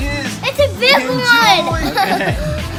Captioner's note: laughs